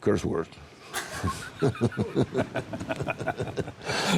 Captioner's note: both laughing